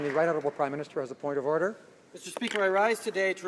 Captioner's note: some Applause